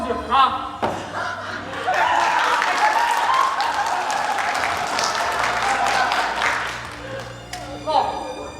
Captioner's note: applause